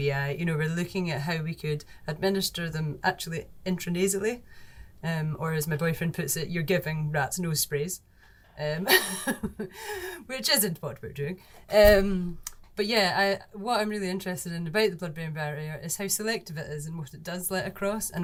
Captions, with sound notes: We're looking at how we could administer them actually, intranasally, or as my boyfriend puts it, you're giving rats nose sprays, (laughs) which isn't what we're doing. But yeah, what I'm really interested in about the blood-brain barrier is how selective it is and what it does let across,